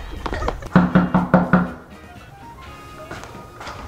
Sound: knocking

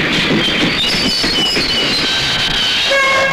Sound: brakes squeal

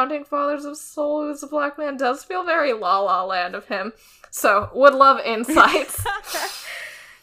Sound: laughs

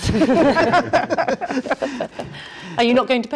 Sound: all laughing

